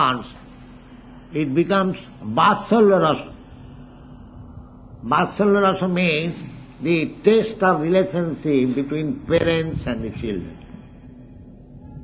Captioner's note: feedback